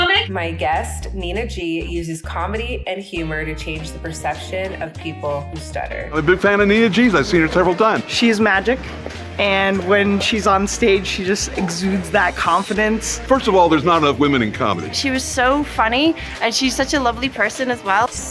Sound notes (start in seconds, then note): none